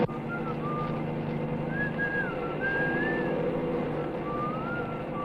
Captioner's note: Compton whistling softly